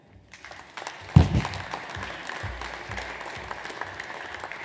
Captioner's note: audience applauds